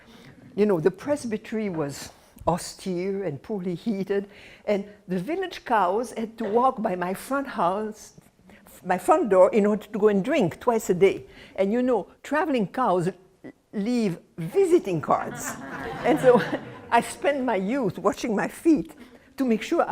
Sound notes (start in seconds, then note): 15.2 laughter